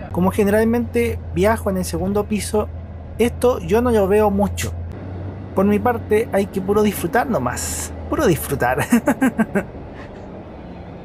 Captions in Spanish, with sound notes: como generalmente viajo en el segundo piso, esto no lo veo mucho por mi parte, hay que puro disfrutar no más, solo disfrutar (risas)